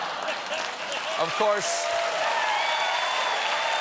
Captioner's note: applause; cheers and applause